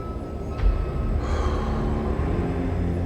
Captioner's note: sighs